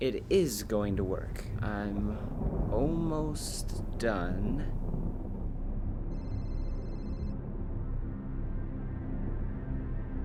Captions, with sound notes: - It is going to work. I'm almost done. (cellphone ringing)